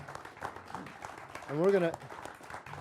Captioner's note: applauding